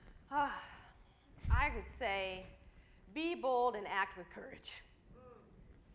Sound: sighs

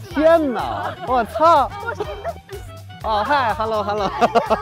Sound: speaking in foreign language; laughter; speaking in foreign language; laughter

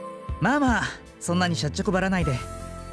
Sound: none

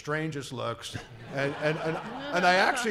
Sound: laughing

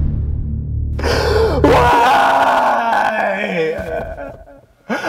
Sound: gasps

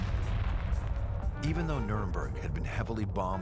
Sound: explosion

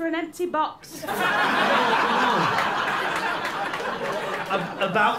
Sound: laughter and applause

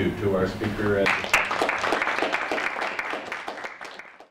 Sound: audience applauds

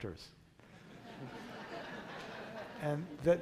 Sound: crowd laughter

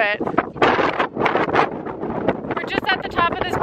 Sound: wind rustling

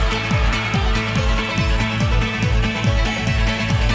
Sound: audience cheering

